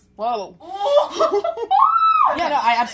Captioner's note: laughter